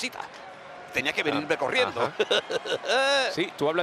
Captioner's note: laugh